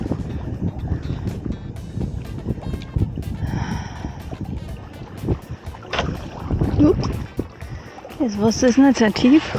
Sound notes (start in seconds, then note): 2.6 strong wind & sighing